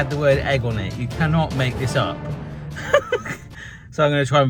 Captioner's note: laughs